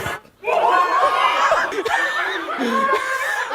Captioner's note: exclamations, laughter